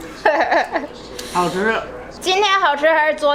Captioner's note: speaking Chinese; laughs; grandma speaking Chinese; speaking Chinese